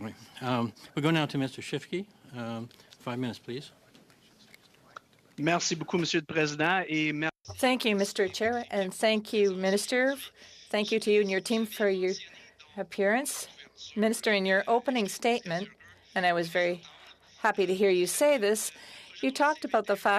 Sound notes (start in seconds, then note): 11.6 speaking French